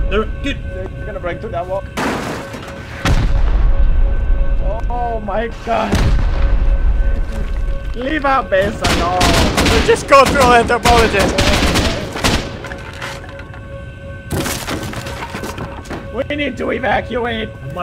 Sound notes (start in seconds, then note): 2.0 crash; 3.0 boom; 5.8 boom; 8.8 gunfire; 12.1 wood clattering and splintering